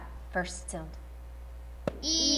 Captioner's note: tap